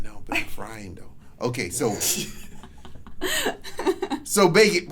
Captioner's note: laughs